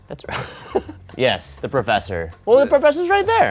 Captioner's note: laughter